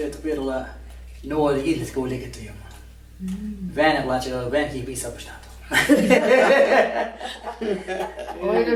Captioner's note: laughing